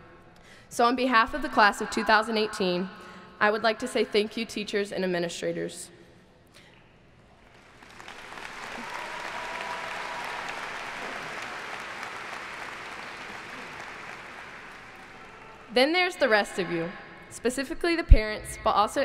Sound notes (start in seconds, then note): 7.2 applauding